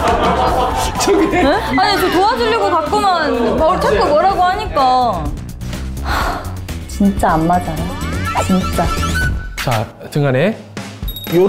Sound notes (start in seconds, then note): 6.0 deep sigh